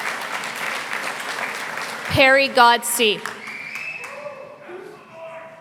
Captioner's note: applause